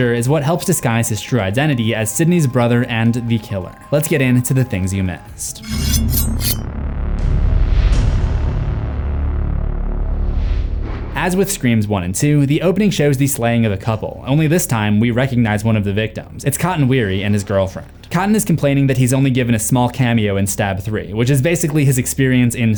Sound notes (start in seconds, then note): 5.5 knives slashing; 5.7 brooding music